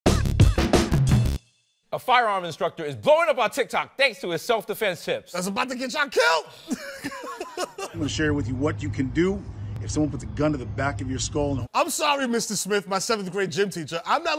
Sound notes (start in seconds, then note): 0.0 theme music playing; 6.6 chuckling